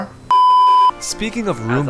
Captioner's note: beep